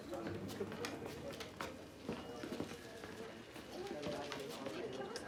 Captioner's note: indistinct conversation